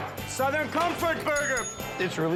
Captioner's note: bell rings